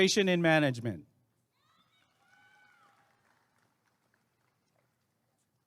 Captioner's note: applause and cheering